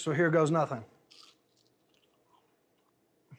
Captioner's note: crunching into it